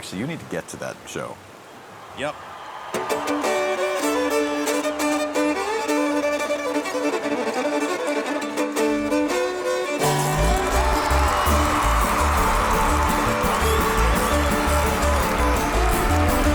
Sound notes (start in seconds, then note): 3.0 rousing country music; 10.0 spectators cheering